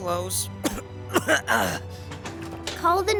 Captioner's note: coughing